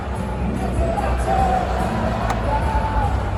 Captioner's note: laughs